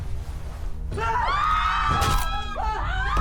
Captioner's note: screams; crack; body drop